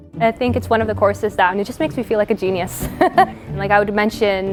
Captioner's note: laughs